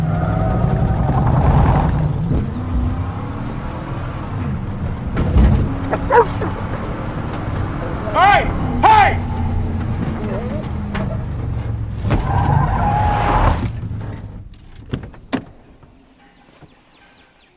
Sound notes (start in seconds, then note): 0.1 car skidding; 5.8 dog barks; 11.9 car stops and skids; 14.8 car door opens